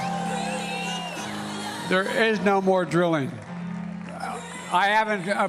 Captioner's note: cheers and applause